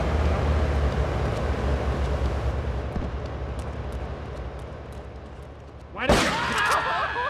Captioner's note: gun firing; screaming